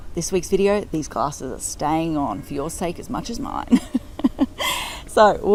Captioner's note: laughing